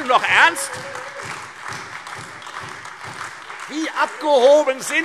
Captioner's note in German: Beifall Freie Demokraten und SPD